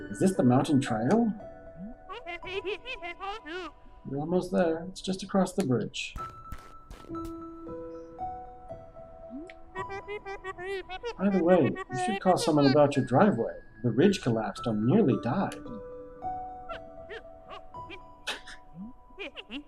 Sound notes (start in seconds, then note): 16.7 granny laughs; 19.1 laughs